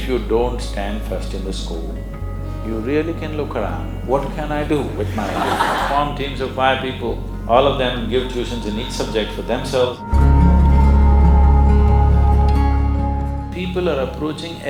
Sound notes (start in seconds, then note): 4.8 laughter